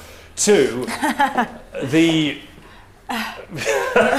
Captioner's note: laughs